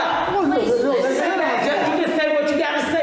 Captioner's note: group chattering